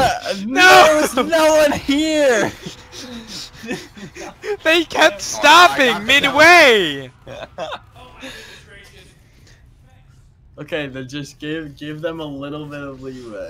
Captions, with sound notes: Nooo! There was no one here! *slight laughter* They kept stopping midway *laughter* Ok, but just give-give them a little bit of leeway